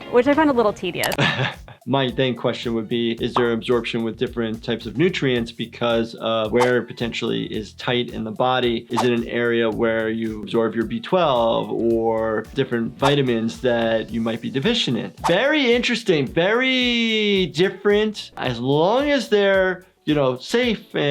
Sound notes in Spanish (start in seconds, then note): 1.1 riendo